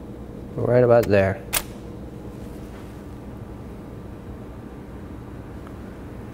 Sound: camera shutter clicking

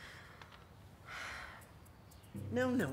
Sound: Makayla sighs

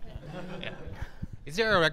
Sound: audience laughing

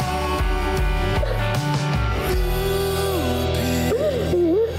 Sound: crying

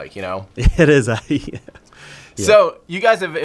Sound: laughs

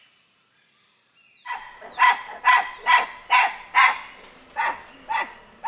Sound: birds chirping and monkey calls

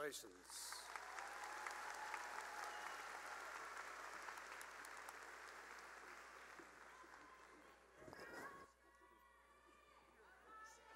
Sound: cheering and applause

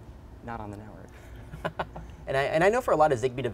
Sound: laughter

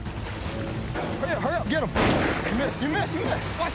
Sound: gun shot

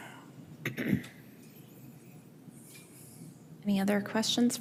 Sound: attendee clears throat

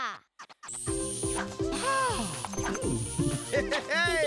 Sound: buzzing; chuckling

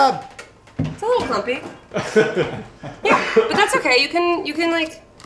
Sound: laughs

